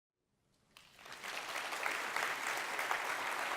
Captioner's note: applause